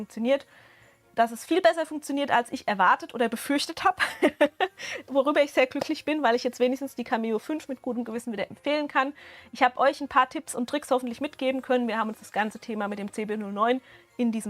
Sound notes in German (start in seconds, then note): 4.0 Gelächter